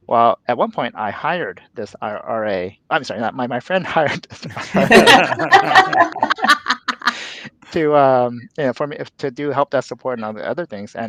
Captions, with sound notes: Well, at one point I hired this RA, I'm sorry, my friend hired (all laughing) to do help desk support and all the other things.